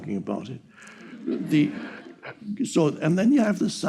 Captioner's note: audience laughing